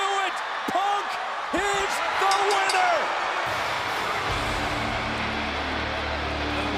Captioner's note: bell rings